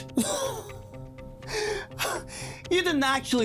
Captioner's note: Eric laughing